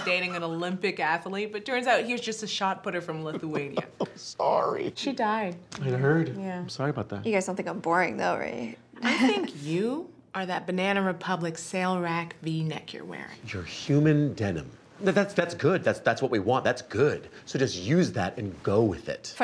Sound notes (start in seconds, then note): 3.2 chuckles